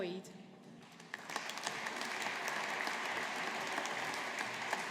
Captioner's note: audience applauding